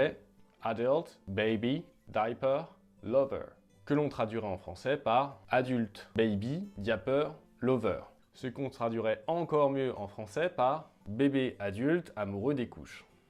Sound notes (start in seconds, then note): 6.9 with a French accent